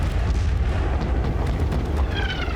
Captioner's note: cannons firing